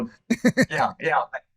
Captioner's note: laughter